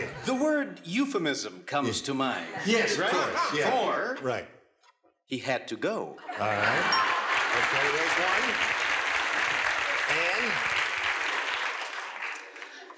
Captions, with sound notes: -The word "euphemism" comes to mind. -Yes, of course. -For... -Right. -He had to go. -All right. Okay, there's one. (applause) Anne?